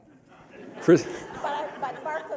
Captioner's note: laughter